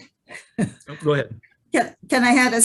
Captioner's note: chuckles